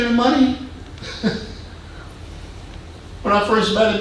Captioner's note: man chuckling